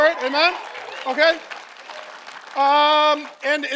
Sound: congregation cheering; congregation applauding

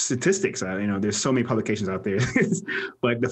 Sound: laughs

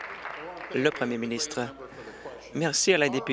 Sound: applause

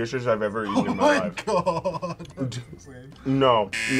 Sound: laughs

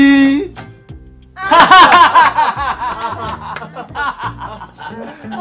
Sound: laughing

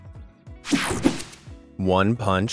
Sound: digital buzzing

